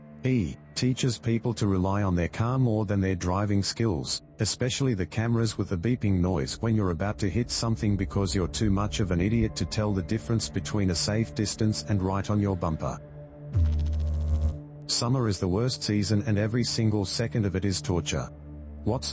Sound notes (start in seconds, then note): 13.5 electrical noise